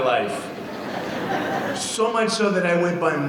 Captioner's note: audience laughing